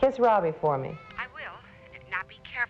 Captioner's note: on phone